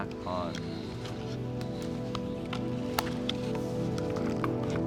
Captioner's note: masks rustling